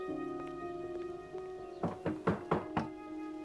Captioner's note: knocking on door